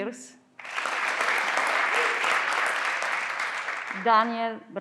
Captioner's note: everyone claps